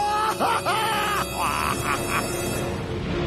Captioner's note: evil laugh